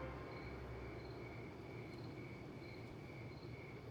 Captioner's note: crickets chirping